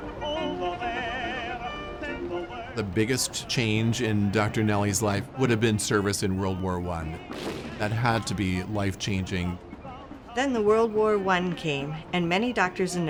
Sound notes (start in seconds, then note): 7.2 cannon booming